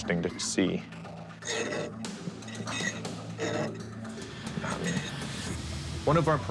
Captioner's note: metal scraping lightly